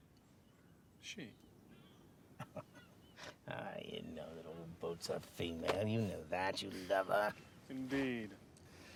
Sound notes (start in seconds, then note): 2.3 chuckling